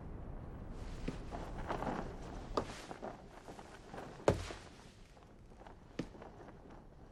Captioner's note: footsteps